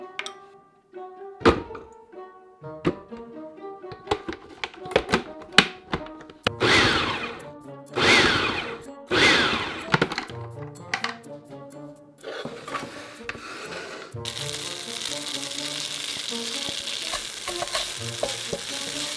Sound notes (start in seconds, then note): 6.6 pulsing; 14.1 sizzling